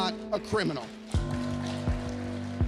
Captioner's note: applause